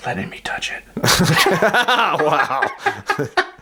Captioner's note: laughing